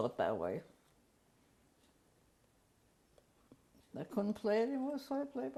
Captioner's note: pauses for 3 seconds